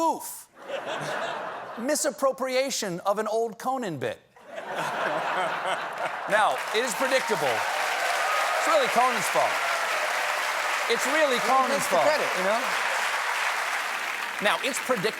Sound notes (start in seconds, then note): 5.8 applause; 5.9 laughter